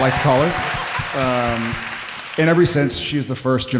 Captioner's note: audience cheering